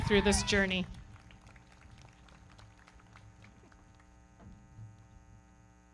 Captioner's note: everybody clapping